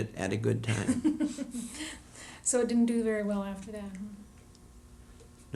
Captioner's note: laughter